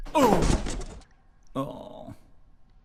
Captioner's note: groans